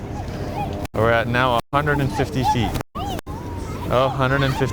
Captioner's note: audio pops